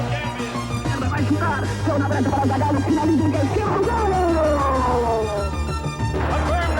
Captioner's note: announcer speaking in foreign language